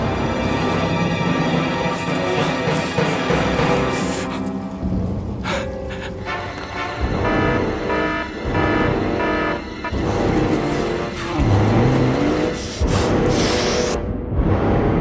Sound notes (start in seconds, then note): 1.3 music swelling; 5.4 Fleques panting; 7.0 alarm starts